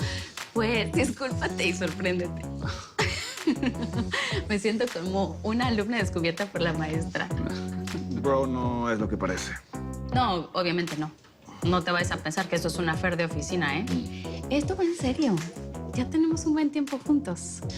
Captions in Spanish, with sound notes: - PUES, DISCÚLPATE Y SORPRÉNDETE. [Risas] ME SIENTO COMO UNA ALUMNA DESCUBIERTA POR LA MAESTRA. - BRO, NO ES LO QUE PARECE. - NO, OBVIAMENTE, NO. NO TE VAYAS A PENSAR QUE ESTO ES UN AFFAIR DE OFICINA, ¿EH? ESTO VA EN SERIO. YA TENEMOS UN BUEN TIEMPO JUNTOS.